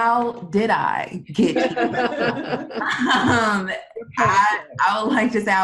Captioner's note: group laughs